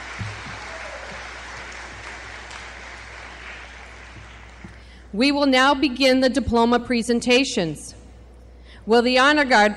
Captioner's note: applause